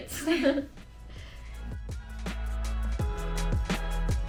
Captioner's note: both chuckles